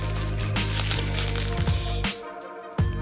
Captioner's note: plastic rustling